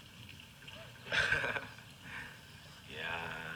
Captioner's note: laughing